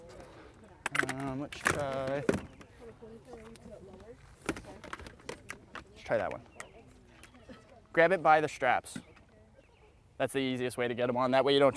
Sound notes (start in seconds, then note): 3.3 helmets rattling